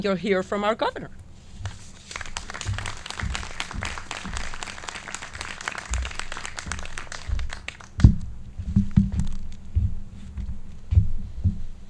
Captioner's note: clapping